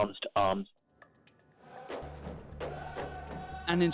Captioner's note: non-english chanting